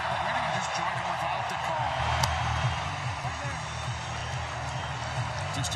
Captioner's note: cheering